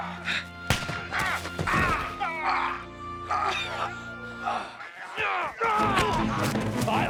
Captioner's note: gun firing; John yelping; action music